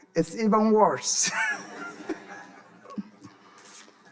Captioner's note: audience laughing; laughing